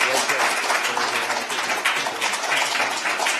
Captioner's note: applause